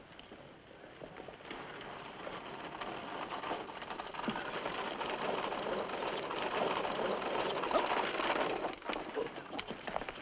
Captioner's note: horse cart rattling